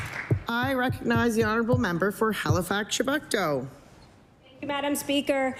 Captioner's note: applause